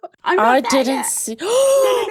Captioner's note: gasp